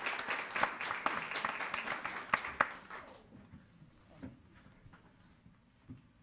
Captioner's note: people chattering faintly